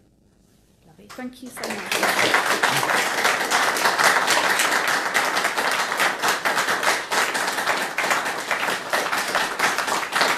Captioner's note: applause